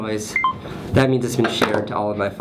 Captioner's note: phone beeps